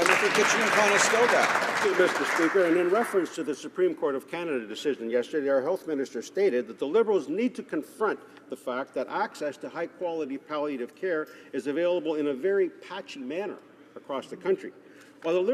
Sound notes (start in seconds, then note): 4.1 some Applause